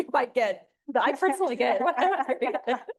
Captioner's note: laughs